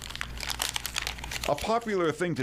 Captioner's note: paper crinkles